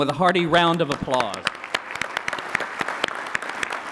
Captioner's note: applause